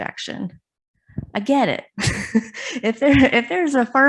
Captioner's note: chuckles